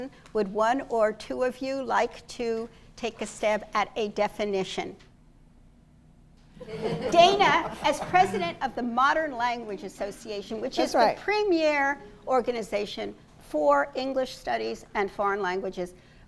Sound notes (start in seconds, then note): 6.5 laughter